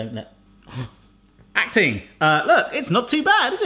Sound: gasps

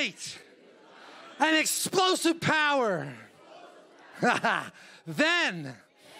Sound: laughs

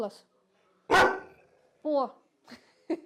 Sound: dog barks

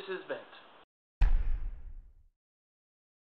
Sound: loud thud

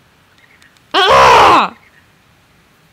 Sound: scream of anger

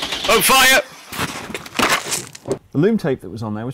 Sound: engine turning over; camera crashing to the ground

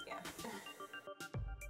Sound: laughs

